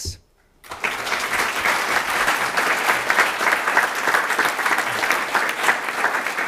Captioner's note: applause